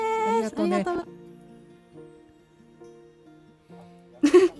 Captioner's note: silence